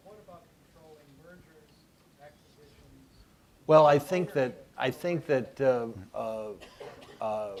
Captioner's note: off-mic